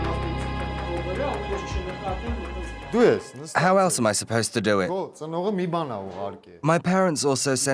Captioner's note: voiceover